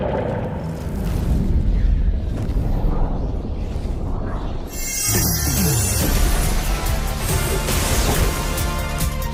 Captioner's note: distant roaring